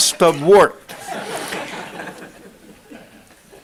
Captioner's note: laughter